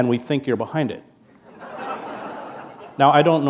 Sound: laughter

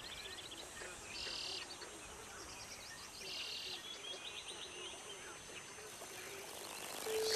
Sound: water spalshes, birds chirp

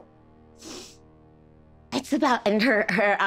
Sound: sniffs

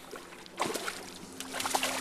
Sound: splash

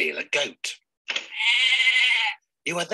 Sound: goat bleats

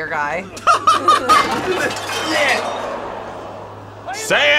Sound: both laugh

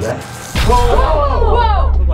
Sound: electrical buzzing; yelling

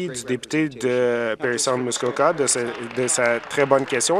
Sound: some Applause

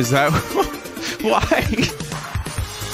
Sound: laughter

